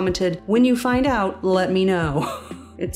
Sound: chuckle

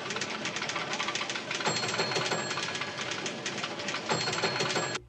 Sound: bell Rings

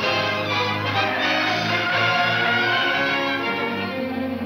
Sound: tires squealing

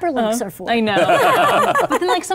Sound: laughing

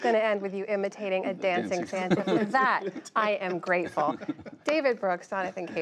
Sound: laughter

